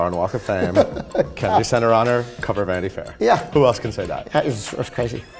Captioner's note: laughs